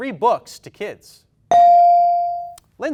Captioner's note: bell dings